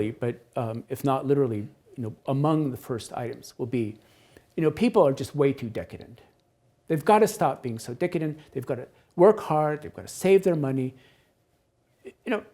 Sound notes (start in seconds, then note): none